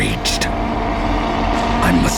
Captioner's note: rugido